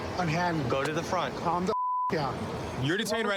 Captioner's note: beep